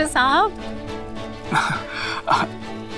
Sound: laughs

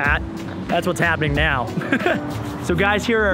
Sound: laughing

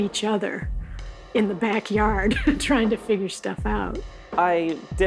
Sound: laughs

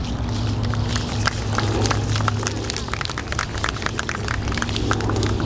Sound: audience clapping

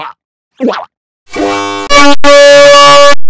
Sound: robotic, fuzzy

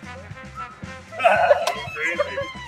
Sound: laughing

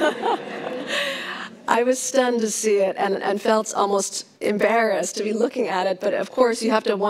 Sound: laughs

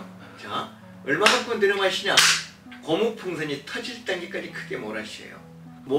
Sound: breathing

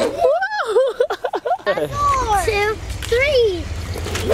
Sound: laughs

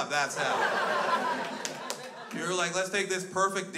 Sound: crowd laughs

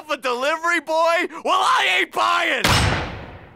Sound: slamming door

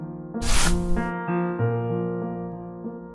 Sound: flash Sound

